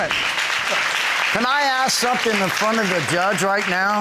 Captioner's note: audience clapping